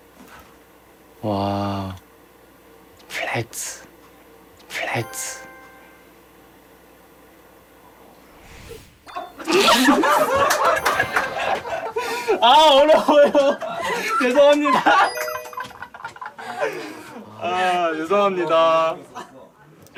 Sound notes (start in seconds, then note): 9.4 director bursts into laughter